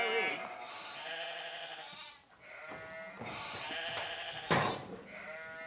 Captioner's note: sheep bleating; metal cage clinking